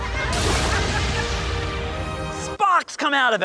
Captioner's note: thunder claps